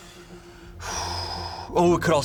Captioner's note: blows deeply